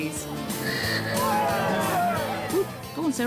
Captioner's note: cheering